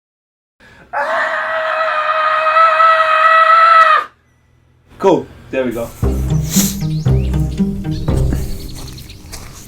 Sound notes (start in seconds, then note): 0.9 screaming; 5.8 gentle music